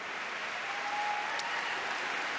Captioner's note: applause